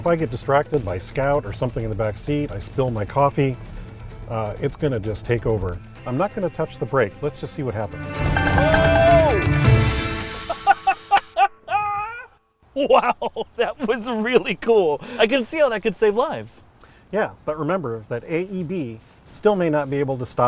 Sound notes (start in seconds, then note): 10.3 laughter; 11.0 hands Clapping